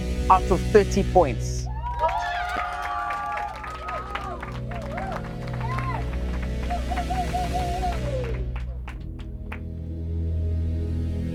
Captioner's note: cheering